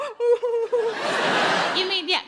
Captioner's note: audience laughs